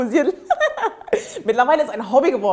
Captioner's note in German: Sie lacht